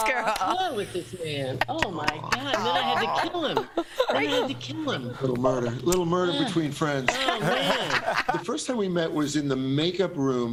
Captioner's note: laughter